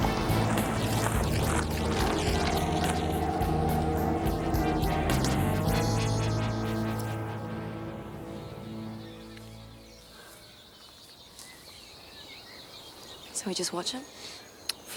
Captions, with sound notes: (birds chirping) So, we just watch him? - For now.